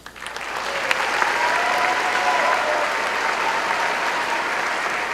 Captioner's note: applause